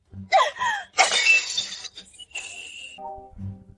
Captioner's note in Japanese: 笑い